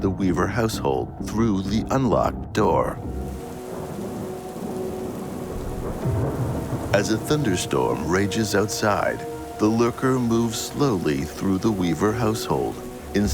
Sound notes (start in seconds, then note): 3.3 thunder crashes